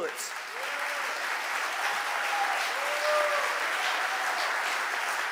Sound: audience applauding

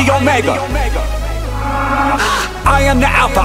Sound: ahh!

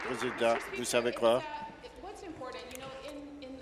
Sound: applause

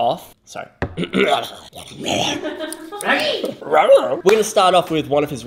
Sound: makes creature-like noises

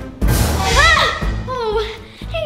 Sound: screams

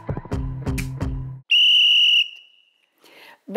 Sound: whistle

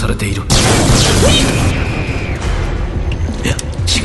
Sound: multiple blaster shots and screams

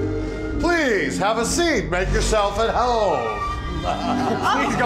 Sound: laughs

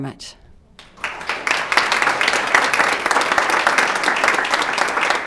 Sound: attendees applauding

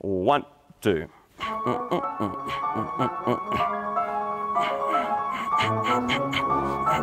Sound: humming; upbeat orchestra music

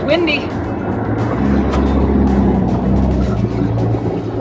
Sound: wind howling

